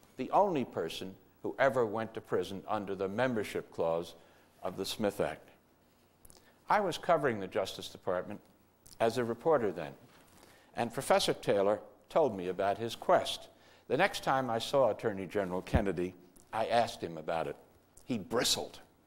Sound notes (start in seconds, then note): none